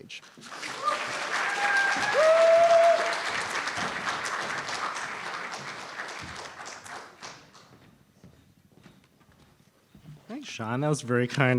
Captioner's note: applause